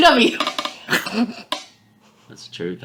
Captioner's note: laughing